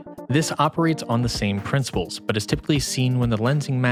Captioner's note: none